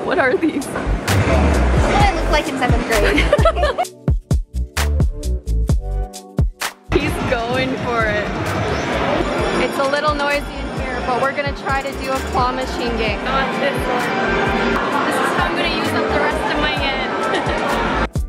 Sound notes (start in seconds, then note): 2.8 laughs; 4.3 calm music; 17.1 chuckles